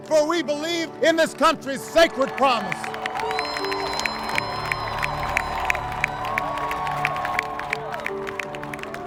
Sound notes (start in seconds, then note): 1.8 audience cheering; 3.3 audience applauding